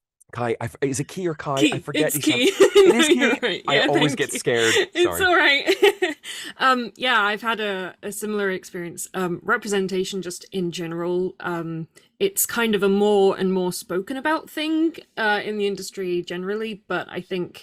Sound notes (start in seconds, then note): 1.6 laughs